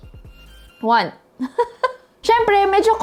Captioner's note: giggles